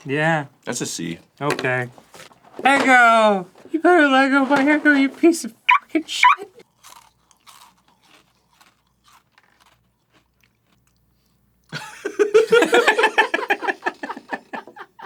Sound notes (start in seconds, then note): 7.3 pensive chonching; 11.7 giggling